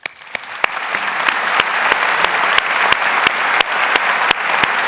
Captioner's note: audience applauds